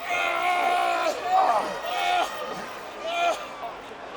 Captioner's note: wrestlers grunting